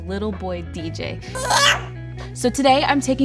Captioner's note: baby squeaking